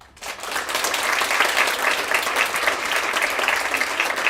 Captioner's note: applause